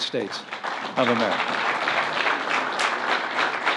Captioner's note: applause